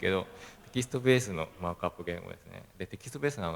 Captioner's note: laugh